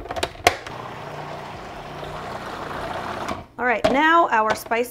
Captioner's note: blender whirring